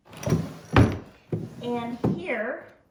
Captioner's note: drawer closes